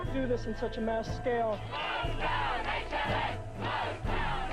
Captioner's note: chanting